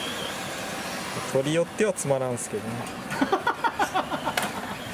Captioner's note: laughs